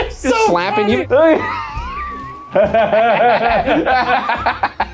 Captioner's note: laughing